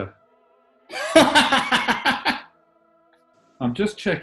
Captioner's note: laughing